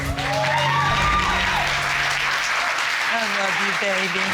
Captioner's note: audience applauding